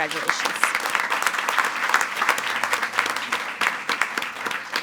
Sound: attendees applauding

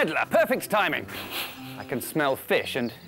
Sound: super Sniff!

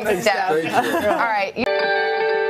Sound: laughter

